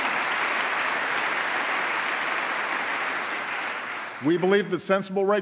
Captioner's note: applause